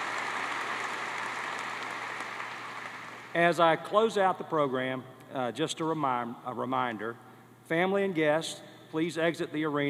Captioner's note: cheers and applause